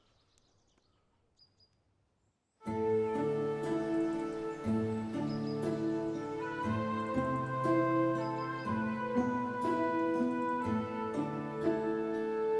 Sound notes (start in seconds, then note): 2.7 solemn music; 5.7 birds chirp; 5.7 solemn music continues